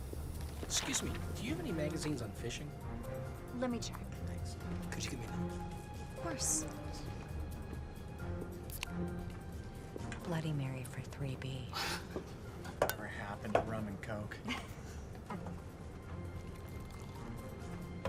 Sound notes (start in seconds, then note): 0.0 air hissing; 8.6 can opens; 14.4 chuckles